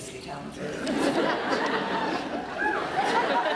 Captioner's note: crowd laughs and cheers